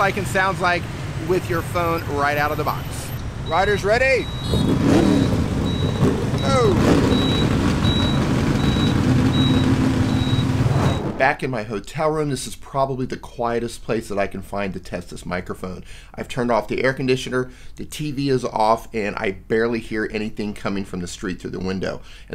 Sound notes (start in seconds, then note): 4.4 vehicle engines revving